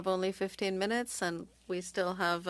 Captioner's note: speaking French